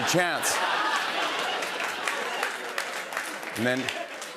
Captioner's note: laughter